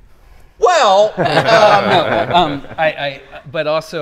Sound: group laughing

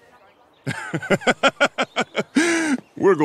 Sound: Huntsman laughs heartily

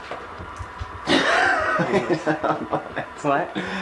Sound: laughing

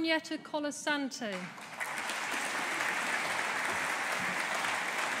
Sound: audience applauding

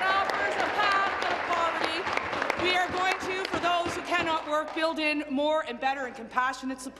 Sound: applause

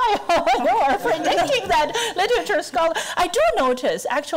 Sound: laughing

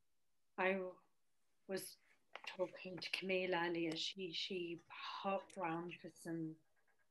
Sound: slurred

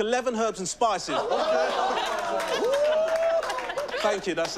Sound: cheering

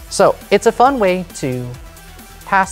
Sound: none

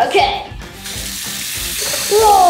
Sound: water spashing

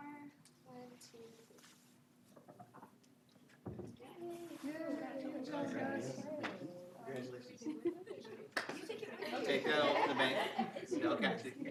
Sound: applause

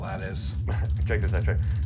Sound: laughs

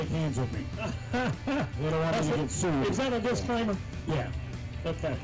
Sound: laughing

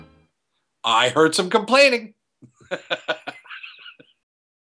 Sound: laughs

